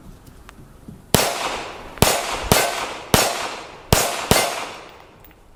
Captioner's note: gun fires